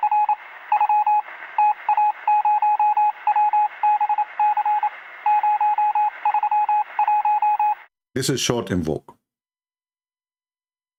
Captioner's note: Tepuk tangan